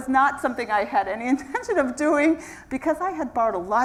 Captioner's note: laugh